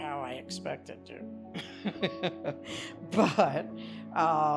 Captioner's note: laughs